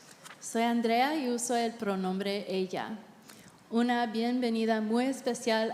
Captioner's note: interpreter speaking in Spanish